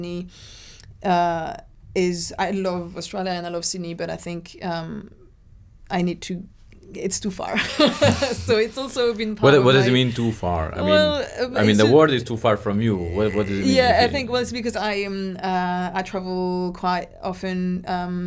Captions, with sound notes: I love Australia and I love Sydney, but I think I need to, it's too far. (Laughs) So it's also been-- - What does it mean to far? I mean, the world is too far from you. - I am I travel quite often during the year and I think.